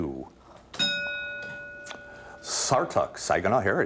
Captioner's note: ding